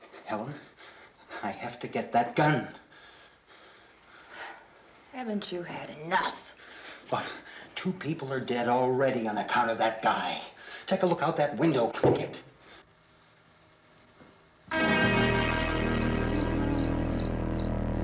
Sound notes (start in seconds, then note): 12.3 footsteps